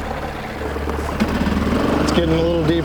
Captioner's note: motor puttering